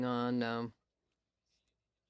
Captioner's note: speaking French